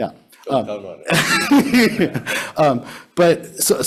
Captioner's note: laughing